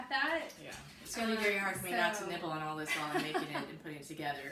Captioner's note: laughs